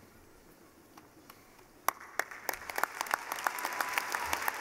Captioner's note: clapping